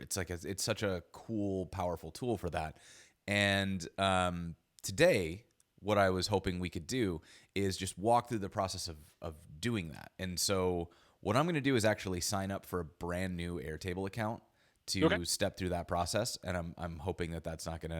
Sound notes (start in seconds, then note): none